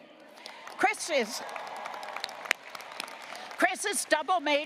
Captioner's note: audience applauding